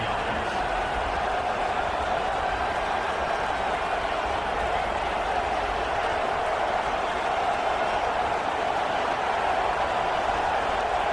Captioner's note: crowd Noises